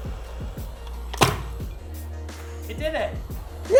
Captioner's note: crunch of imploding metal